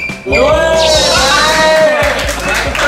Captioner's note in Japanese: 拍手